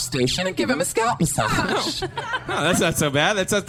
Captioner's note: cast laughter